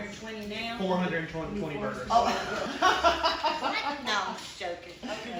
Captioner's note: worker laughs